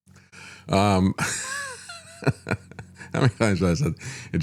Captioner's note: laughs